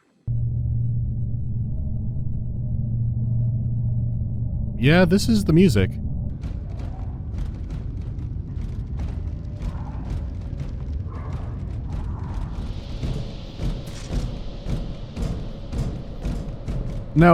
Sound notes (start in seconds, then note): 0.3 ambient hum; 5.9 ambient hum and clanking footsteps; 12.8 ambient hum and thumping footsteps